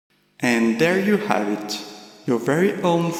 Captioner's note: talking in reverb